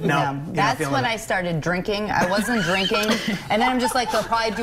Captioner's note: laughter